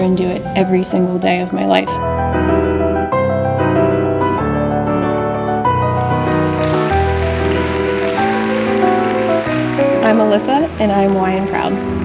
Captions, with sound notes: and do it every single day of my life. (upbeat piano music) (audience applauding) I'm Alyssa, and I'm Y and proud.